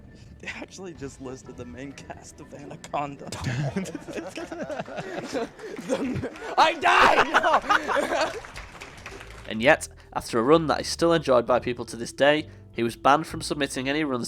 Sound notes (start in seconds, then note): 3.3 laughing and applause; 7.6 more laughing